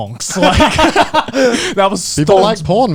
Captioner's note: chuckles